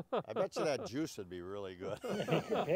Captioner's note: everyone laughing